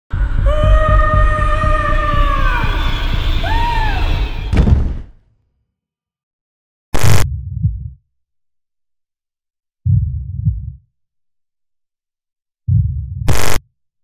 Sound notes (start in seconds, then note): 0.4 Alice Screams; 4.5 thud